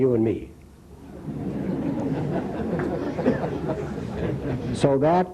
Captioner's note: laughter